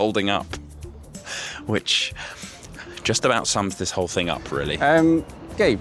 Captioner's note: laughs